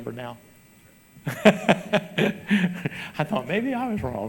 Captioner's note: laughs